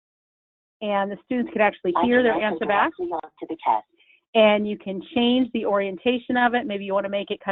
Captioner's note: computer speaking